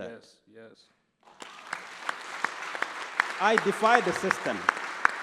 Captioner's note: applause